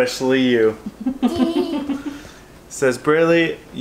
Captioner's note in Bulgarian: се кикоти